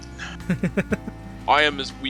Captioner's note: laughs